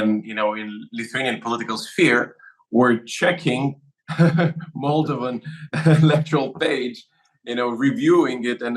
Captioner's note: laugh